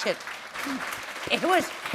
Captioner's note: applause